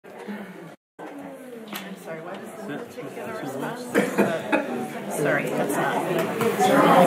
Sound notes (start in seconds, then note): 1.0 people chattering